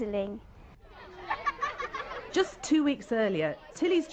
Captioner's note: children laughing